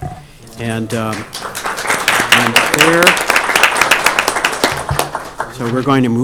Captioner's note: applause